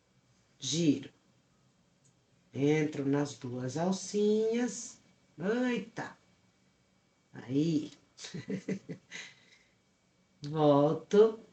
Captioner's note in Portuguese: risadas